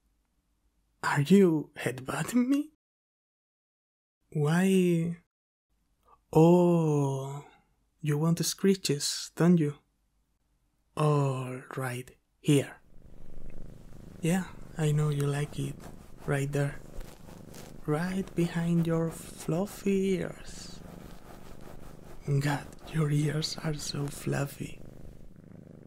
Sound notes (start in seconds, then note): 12.9 scritch scritch